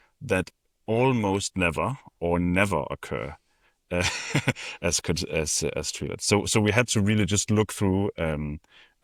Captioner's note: chuckles